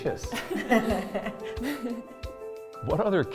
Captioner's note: laughing